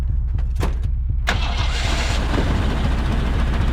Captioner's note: engine starts